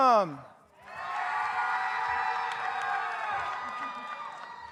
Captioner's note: audience cheers